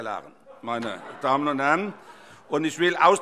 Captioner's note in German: Heiterkeit